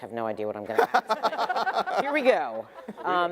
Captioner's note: debaters laughing